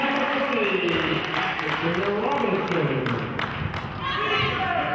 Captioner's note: cheering and clapping